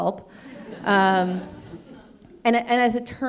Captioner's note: audience laughing